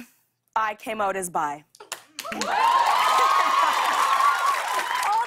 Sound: cheers and applause

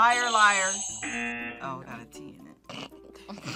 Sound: buzzer rings; buzzer; both laugh

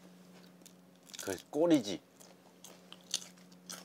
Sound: crunchy; chewing

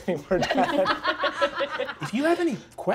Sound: all laughing

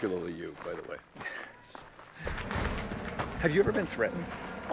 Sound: laughing

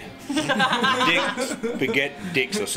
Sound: all laughing

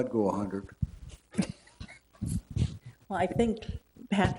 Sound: chuckling

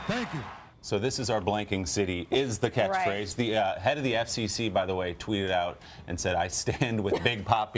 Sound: cheers and applause

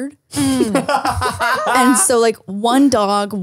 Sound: laughs

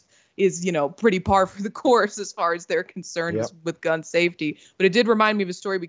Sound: laugh

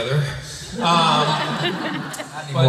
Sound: laughter

